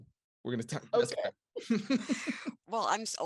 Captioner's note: laughs